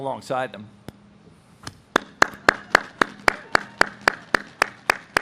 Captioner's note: audience claps